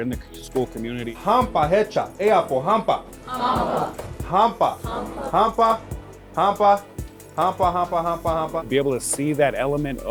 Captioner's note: teacher speaking Indigenous language with students repeating it back